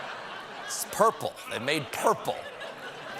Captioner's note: laughter